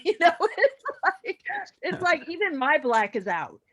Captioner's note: all laugh